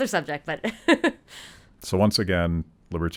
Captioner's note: chuckling